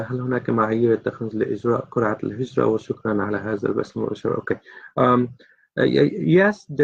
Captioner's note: reading in Arabic